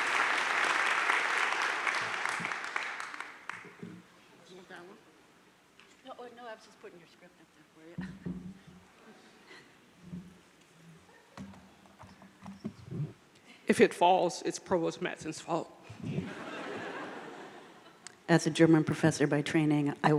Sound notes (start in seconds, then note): 16.0 crowd laughing